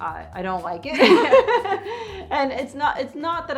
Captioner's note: laughs